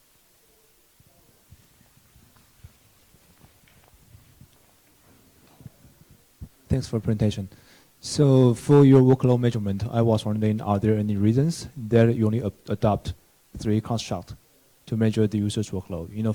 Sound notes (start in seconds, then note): 1.9 silence